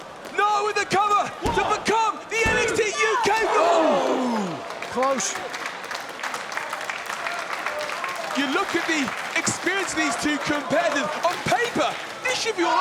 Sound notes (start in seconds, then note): 5.1 applause